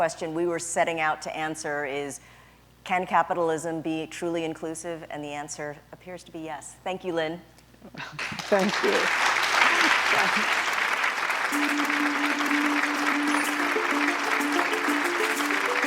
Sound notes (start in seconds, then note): 12.0 applause